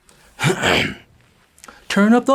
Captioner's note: clears throat